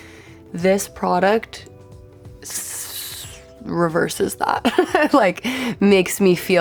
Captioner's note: laughs